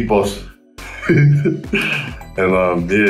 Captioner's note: chuckles